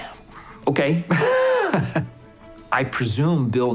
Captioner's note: laughs